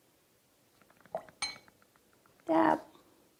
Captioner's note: water splashes